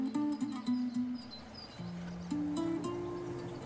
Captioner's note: birds chirping